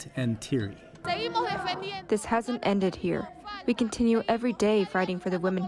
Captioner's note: through translator